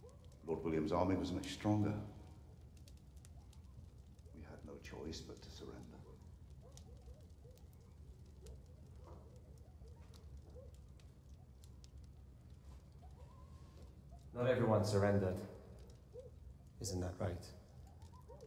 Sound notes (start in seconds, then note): none